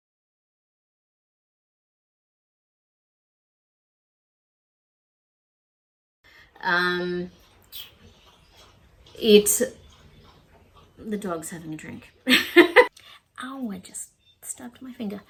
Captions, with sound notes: Um, it... [water lapping noise] The dog's having a drink. [laughs] Ow! I just stabbed my finger.